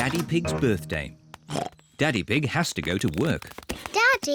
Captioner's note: oinks